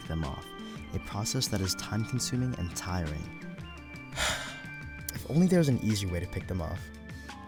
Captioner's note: sigh